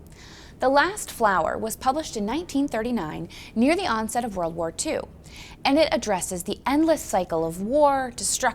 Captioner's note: none